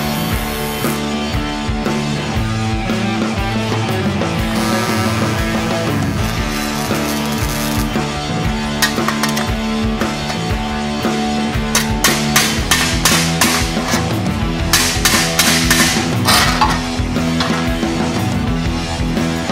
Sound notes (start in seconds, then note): 8.8 clanking